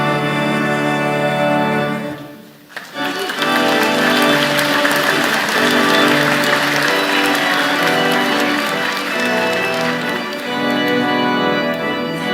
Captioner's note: applause